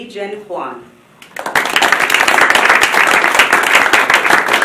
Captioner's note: applause